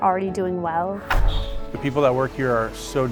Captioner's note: door shutting